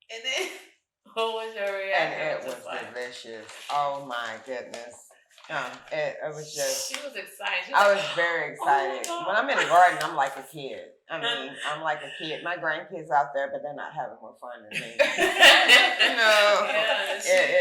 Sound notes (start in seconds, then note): 0.7 chuckles; 9.5 chuckles; 14.7 all laughing